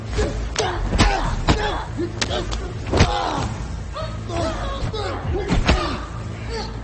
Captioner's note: tense music continues; both grunting; punches thudding